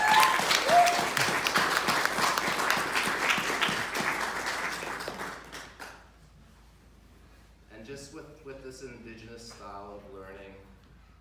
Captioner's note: applause